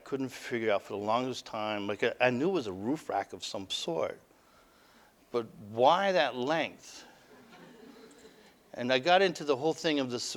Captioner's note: audience: Laughter